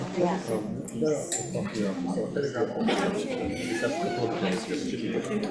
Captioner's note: committee members chatting